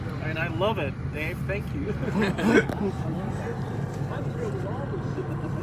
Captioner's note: laughter